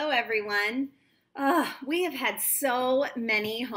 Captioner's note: sighs